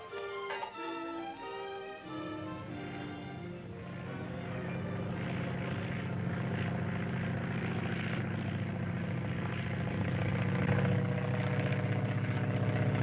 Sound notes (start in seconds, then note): 0.0 gentle music; 4.1 aircraft engine whirring